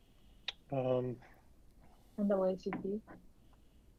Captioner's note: murmuring